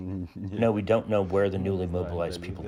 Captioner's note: through translator